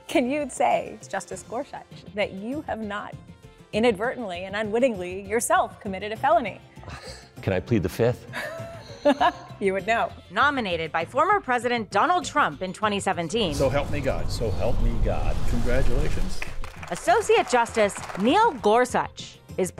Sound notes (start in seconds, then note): 8.3 laughs; 16.0 crowd applauding